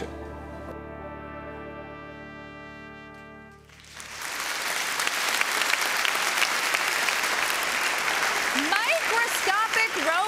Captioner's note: applause